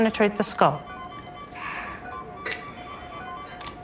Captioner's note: medical equipment beeping